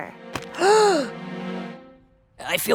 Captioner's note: gasp